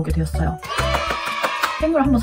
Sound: applause

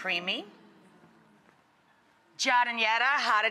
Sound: audience moans

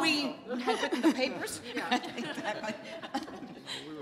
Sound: laughter

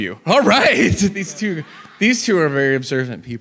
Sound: audience laughs

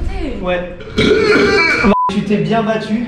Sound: audible burp

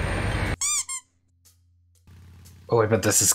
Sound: toy squeaks

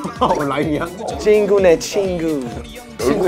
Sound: excited

